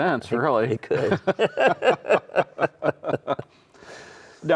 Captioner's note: both laughing